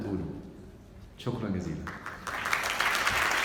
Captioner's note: clapping!